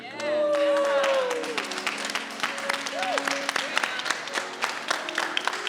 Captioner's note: choir and audience applauding